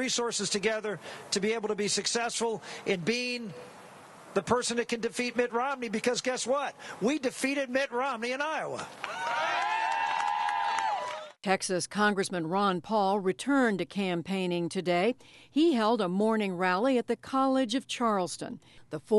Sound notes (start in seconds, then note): 9.0 cheering and applause